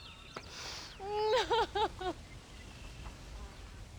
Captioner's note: sobbing